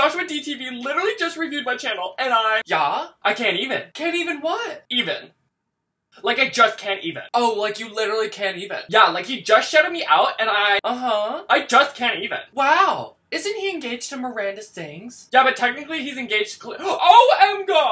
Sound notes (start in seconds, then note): 5.5 silence